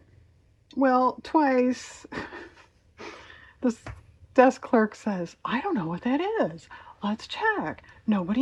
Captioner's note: laughs